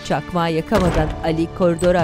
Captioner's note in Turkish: Vurma sesi